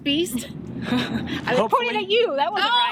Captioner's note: chuckles